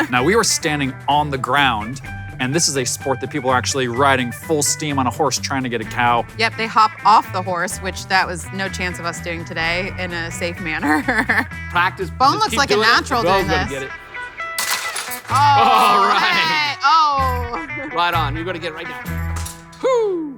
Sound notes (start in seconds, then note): 10.8 laughs; 14.4 rope hitting plastic; 19.4 rope hitting plastic